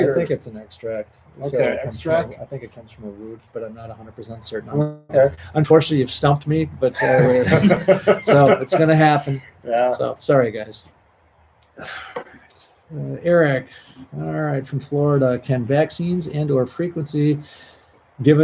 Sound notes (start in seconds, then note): 6.9 laughs